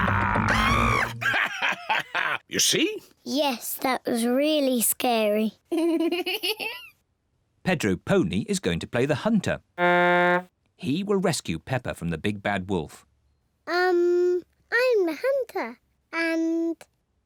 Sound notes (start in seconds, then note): 0.0 screams; 0.0 laughs; 5.7 giggles; 9.7 blows horn